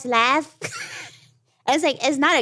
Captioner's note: laughs